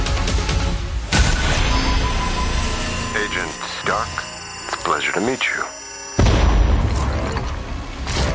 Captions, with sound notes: [electronic distortion] [sinister male voice] Agent Dark? It's a pleasure to meet you.